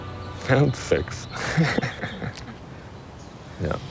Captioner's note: chuckles